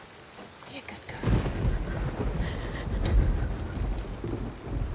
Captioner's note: thunder